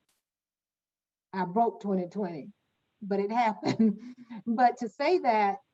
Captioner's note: chuckles